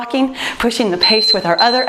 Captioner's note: timer beeps